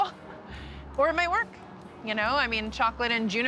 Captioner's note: laughs